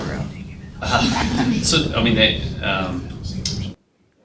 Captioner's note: audience laughs